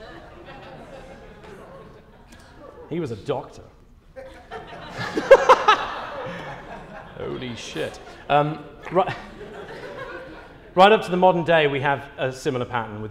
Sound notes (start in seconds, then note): 0.0 laughter; 4.1 laughing